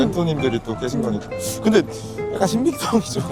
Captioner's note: inhales